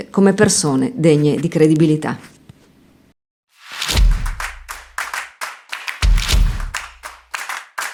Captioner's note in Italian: Applauso